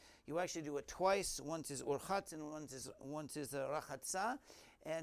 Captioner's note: Hebrew